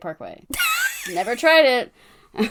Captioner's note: wheeze laughs